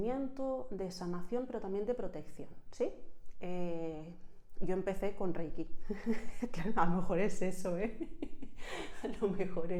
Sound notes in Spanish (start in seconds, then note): 7.8 risas